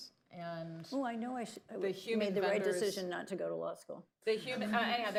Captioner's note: laughter